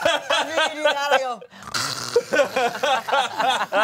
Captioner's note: everyone laughs; snores; everyone laughs